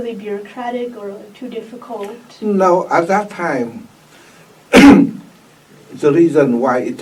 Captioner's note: coughs